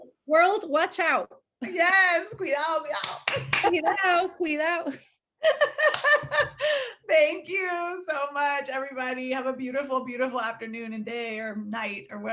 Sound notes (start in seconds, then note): 2.5 speaking foreign language; 5.4 laughing